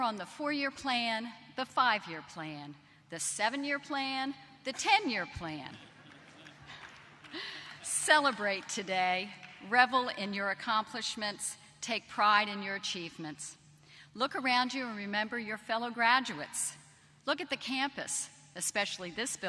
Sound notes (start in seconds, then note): 5.7 laughter